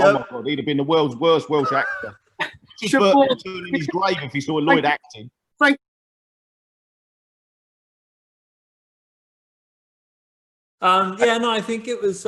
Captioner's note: laughter